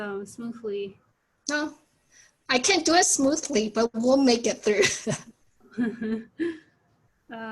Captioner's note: both laugh